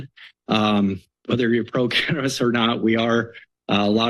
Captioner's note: chuckles